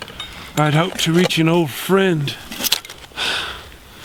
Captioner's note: sighs